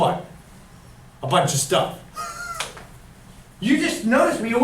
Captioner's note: chuckles